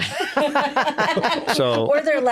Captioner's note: all laughing